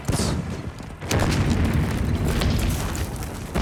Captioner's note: guns firing